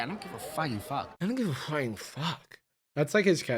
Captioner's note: slurring